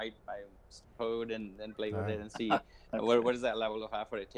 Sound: laughs

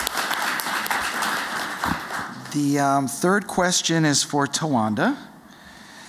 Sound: applause

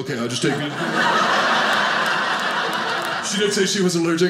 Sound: audience laughing

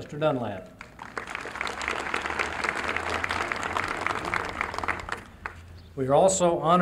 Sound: applause

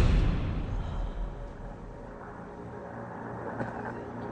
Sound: woman exhales; brooding music

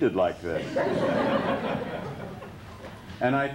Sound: laughter

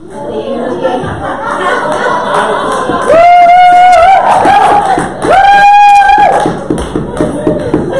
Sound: audience cheers and laughter

